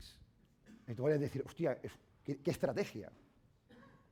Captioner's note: speaking spanish